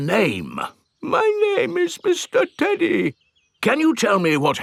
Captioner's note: in normal voice; in teddy's voice; in normal voice